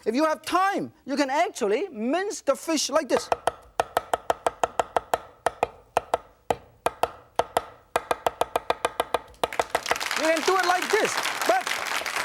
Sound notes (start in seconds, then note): 3.1 knife rapping rhythmically; 9.5 audience applauding